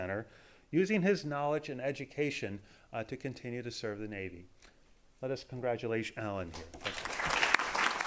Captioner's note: applause